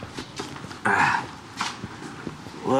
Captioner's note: grunts